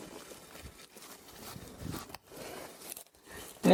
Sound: footsteps, rustling of grass

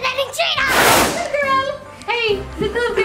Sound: air whooshing

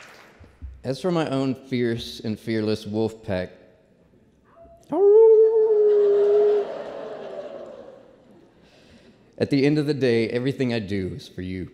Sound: howls

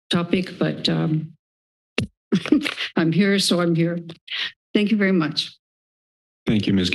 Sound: chuckles

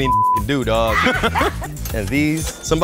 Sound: laugh

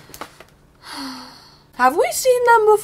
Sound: deep sigh

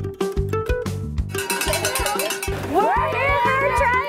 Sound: upbeat music; loud ringing

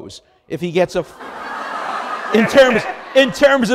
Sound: audience laughs

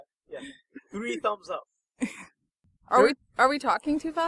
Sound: laughs

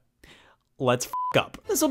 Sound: beep

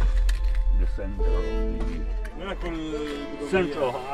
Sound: indistinct conversation

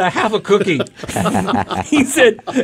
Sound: laughing

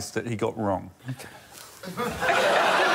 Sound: laughter

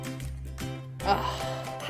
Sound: sigh

